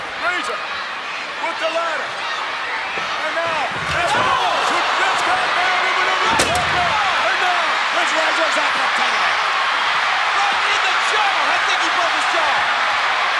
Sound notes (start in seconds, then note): 3.4 Vince vocalizing; 8.0 crowd cheering